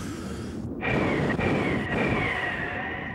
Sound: wind blowing

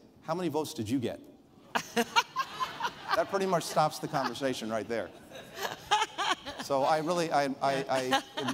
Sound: laughter

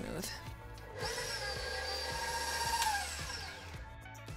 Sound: mixer whirring

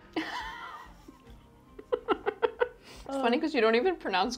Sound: laughs

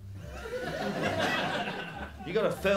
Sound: laughter

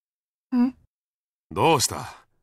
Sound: silence

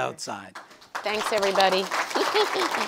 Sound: audience applauds

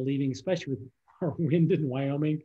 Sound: laughter

